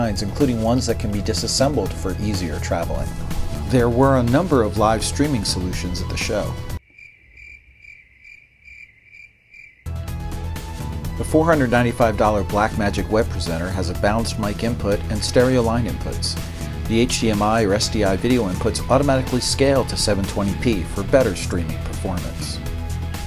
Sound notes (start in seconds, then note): 6.8 crickets chirping; 9.3 upbeat music